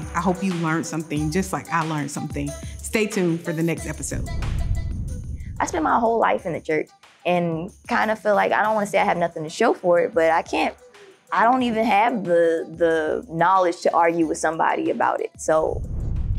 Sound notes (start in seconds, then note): 4.2 whooshing sound; 16.1 theme music plays